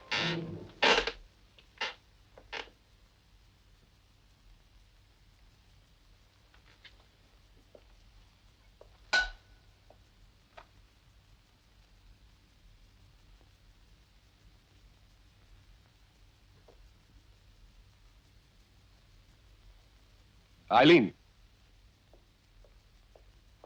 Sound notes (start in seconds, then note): 0.0 chair creaking; 0.1 suspenseful music; 9.1 metal dings